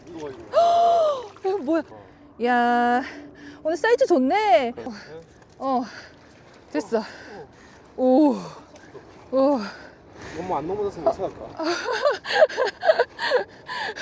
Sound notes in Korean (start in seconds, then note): 7.0 거친 숨소리의 이유는?